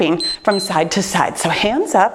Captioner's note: timer beeps